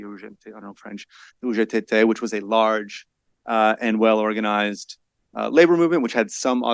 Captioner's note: speaks foreign language